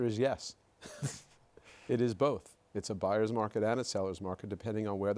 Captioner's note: laughs